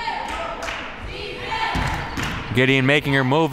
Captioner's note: claps